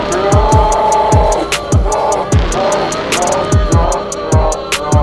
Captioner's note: maniacal laughing